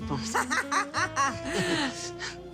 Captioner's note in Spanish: Risotada